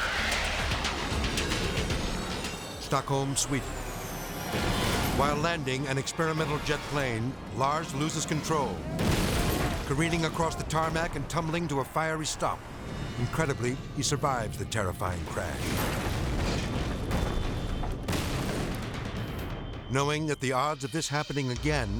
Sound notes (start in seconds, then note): 0.2 jet soaring; 8.7 jet crashing; 14.9 jet crashing